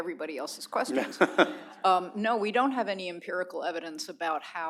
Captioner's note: laughter